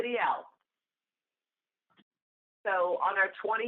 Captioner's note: silence